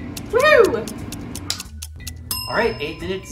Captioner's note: timer ticking... DING!